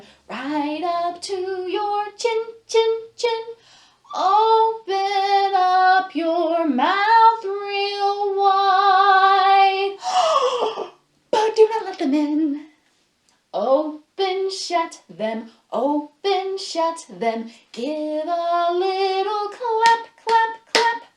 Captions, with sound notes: Right up to your chin, chin, chin Open up your mouth real wide [Gasp] But do not let them in Open, shut them Open, shut them Give a little clap, clap, clap